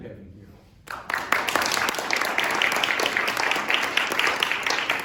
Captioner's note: applause